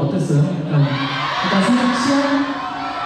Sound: cheering

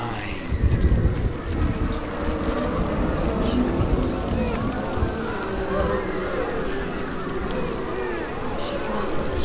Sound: moaning, wailing

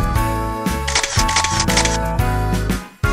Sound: “Click”

